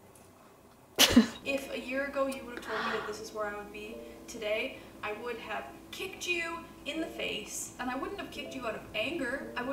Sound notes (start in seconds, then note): 1.0 giggles